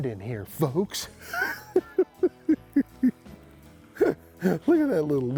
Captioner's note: laughing